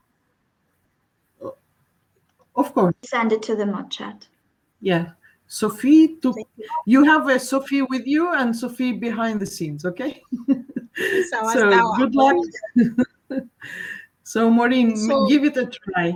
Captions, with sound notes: >> Of course. >> Send it to the mod chat. >> Yeah. Sophie ... You have a Sophie with you and Sophie behind-the-scenes, okay? [ Chatter ] >> So good luck. So, Maureen, give it a try.